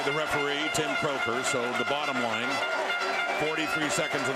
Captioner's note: crowd Noise